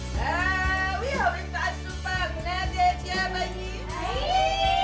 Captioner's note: in foreign language